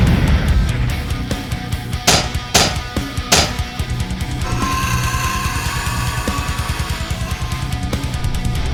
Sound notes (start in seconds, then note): 4.4 scorpion beast shrieks